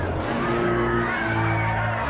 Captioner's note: people cheering